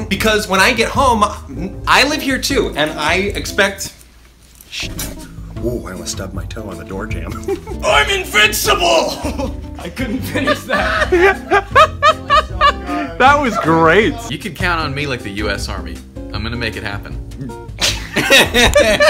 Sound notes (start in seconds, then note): 3.7 whispers; 9.1 laughs; 10.1 off-screen laughs; 13.9 laughs; 17.8 everyone laughs